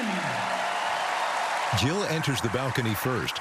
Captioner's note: cheering and applause